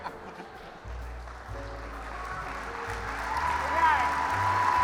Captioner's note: applause